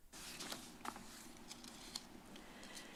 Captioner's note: rustles